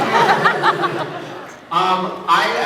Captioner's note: laughs